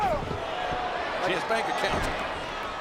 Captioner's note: crowd boos